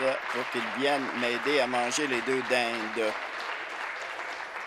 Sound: applause

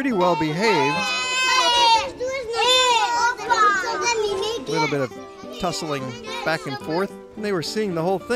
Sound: kids yell

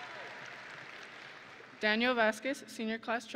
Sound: audience and graduates cheering; audience and graduates applauding

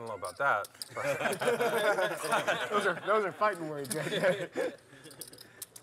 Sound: laugh

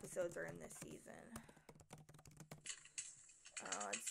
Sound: typing ASMR

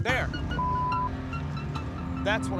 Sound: beeping

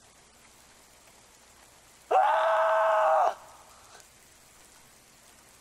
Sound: robin howling

